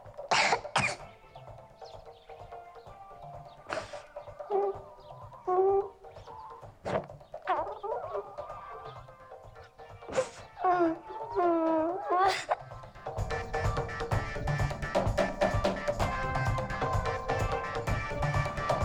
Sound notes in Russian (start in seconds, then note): 0.2 кашляет; 3.7 звуки плача